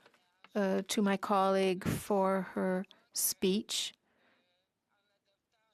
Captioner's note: speaking French